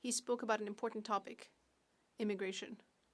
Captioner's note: speaking French